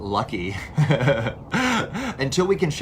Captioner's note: laughs